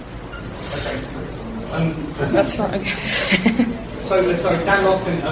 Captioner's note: laughs